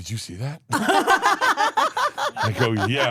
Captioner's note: everyone laughs